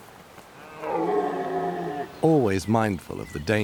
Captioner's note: stag roars